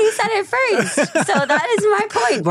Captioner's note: laughs